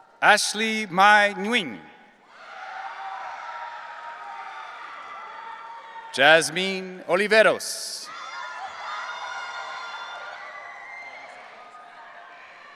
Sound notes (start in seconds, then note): 0.0 audience cheering; 2.3 audience cheering